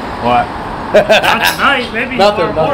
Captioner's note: guys laugh